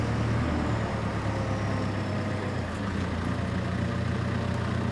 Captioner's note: engine rumbling